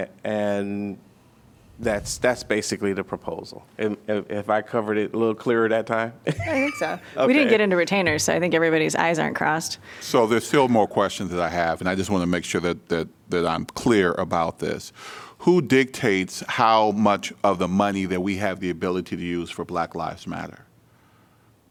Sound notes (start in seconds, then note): 6.2 laughter